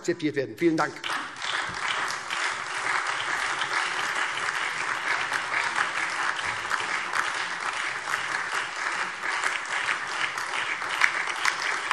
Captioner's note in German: Beifall SPD, Freie Demokraten, AfD und vereinzelt DIE LINKE